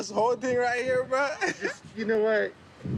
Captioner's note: man chuckles